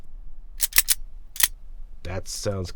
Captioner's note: seashells clinking